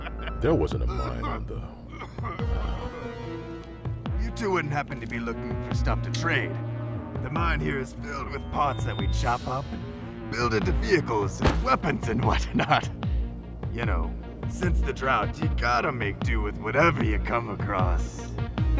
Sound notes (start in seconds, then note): 0.8 sighs